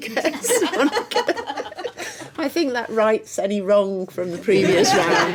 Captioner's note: laughing